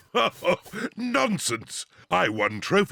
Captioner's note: laughs